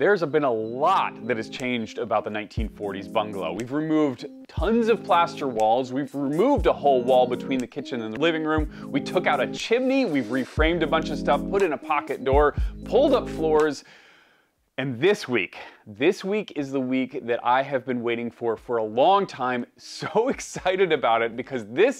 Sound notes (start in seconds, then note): none